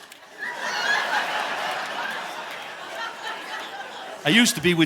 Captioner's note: audience laughing